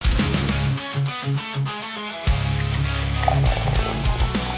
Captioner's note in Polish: Aplauz